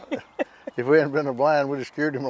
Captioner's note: laughing